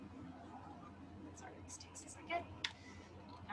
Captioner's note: faintly speaking